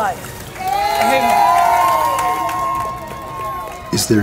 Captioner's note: water splashing; people cheering